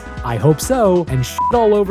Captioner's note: beep